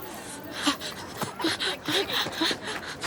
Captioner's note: panting